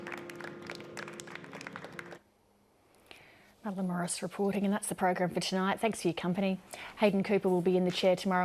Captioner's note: applause